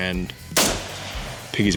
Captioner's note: gunshot